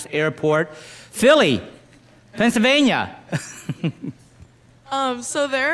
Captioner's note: laughs